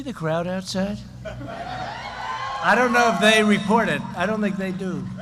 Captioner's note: laughter and applause